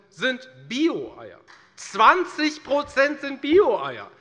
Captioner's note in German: Beifall